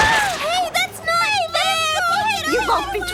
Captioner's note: various protests